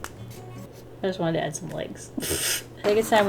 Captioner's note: laughs